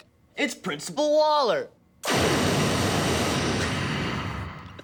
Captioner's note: flame thrower noises